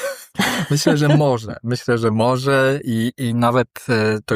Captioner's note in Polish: śmiech